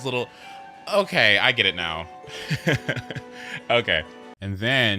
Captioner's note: laughs